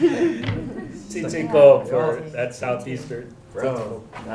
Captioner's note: laughter; non-english